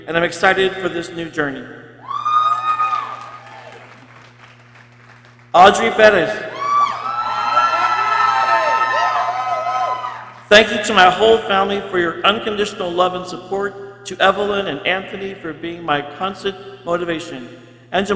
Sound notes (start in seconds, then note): 2.0 people cheering; 6.1 people cheering